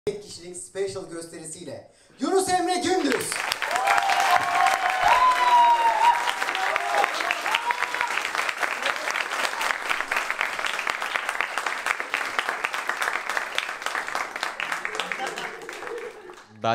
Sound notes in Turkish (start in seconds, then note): 7.8 seyi̇rci̇ alkişi